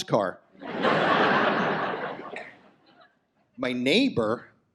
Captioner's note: audience laughs